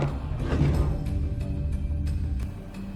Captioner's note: tables scrapes